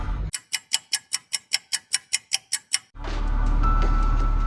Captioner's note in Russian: тиканье часов